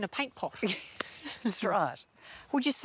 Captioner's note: laughs